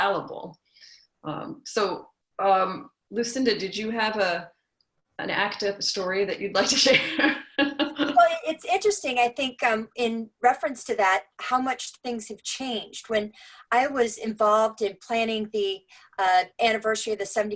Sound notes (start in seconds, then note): 6.9 laugh